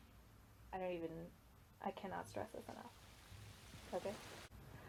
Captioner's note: waterfall sound effect